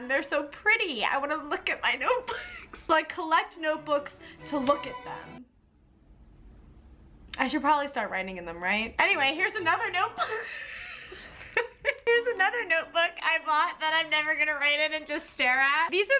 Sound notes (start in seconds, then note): 2.5 laughs; 9.7 laughs